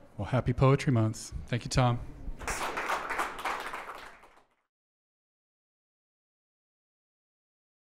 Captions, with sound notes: Well, happy poetry month. Thank you, Tom. (audience clapping)